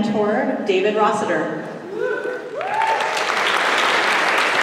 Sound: applause

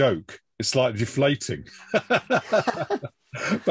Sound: laughs

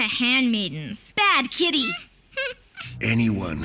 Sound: Merle sniggers

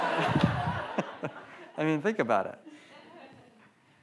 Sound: audience laughs; laughs

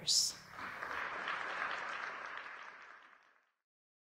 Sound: audience applauding

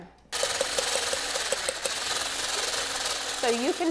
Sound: mixer whirring

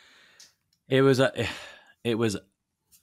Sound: sighing

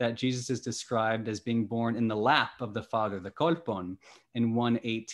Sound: speaking greek

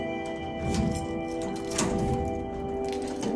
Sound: key turning and door opening

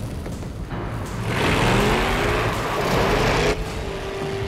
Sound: engine Revs

